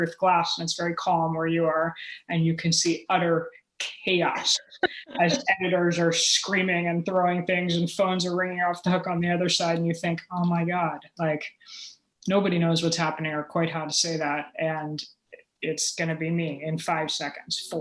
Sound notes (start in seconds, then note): 5.1 laughter